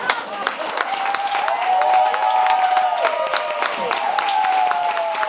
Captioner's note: laughs; audience clapping; audience cheering